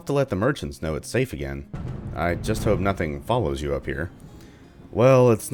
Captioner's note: thunder